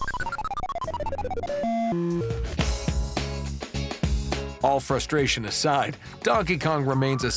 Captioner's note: arcade sounds